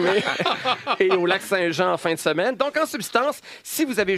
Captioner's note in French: rires